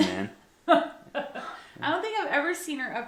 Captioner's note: laughing